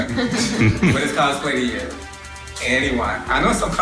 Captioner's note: laughter